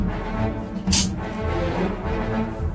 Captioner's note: firing empty gun